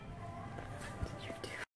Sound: whispering

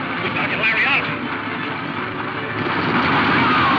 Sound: horses galloping; dramatic music

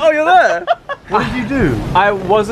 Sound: laughs

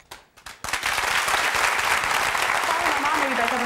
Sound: audience applause

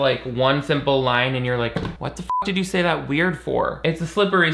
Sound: beep

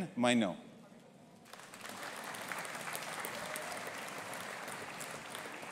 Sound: audience applauding

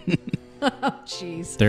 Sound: laughs

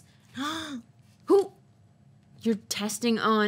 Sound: gasps

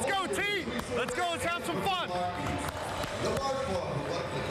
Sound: clappin

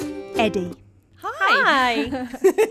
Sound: laughter

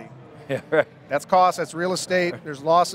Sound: laughs

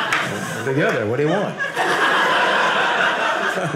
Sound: audience laughing

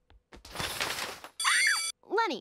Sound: shrieking

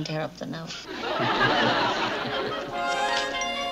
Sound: laughing

